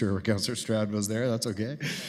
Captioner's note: chuckling